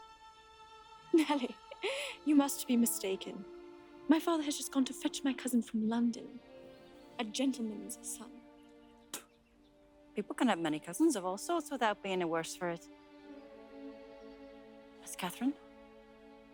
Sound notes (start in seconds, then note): 9.1 spitting; 16.3 soft music